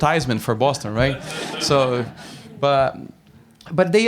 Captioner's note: laughter